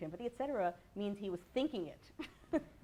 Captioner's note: laughs